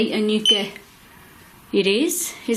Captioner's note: beep